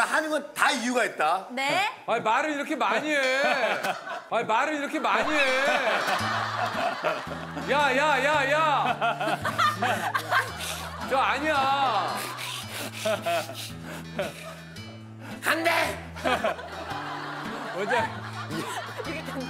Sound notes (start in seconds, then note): 12.2 panting